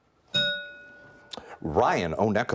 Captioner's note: bell rings